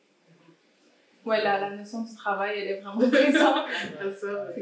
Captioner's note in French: rires